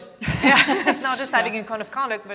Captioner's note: both laugh